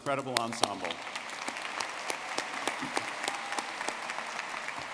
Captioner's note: audience clapping